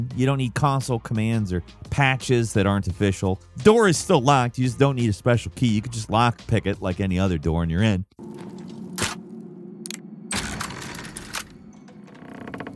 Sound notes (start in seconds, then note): 8.5 metal clacking